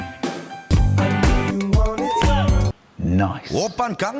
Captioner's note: tongue click